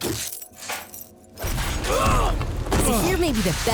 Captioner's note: grunting